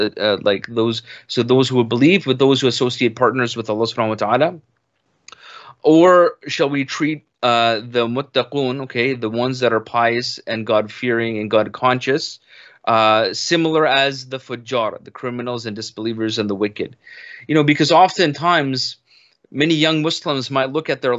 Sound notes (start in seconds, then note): 7.2 speaks in Arabic